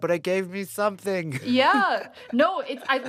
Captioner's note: laughter